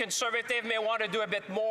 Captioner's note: some Applause; speaking French